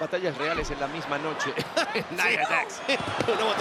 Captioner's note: laugh